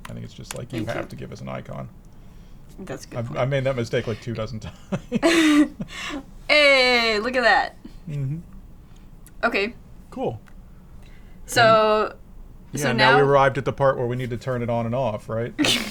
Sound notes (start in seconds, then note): 3.7 laughs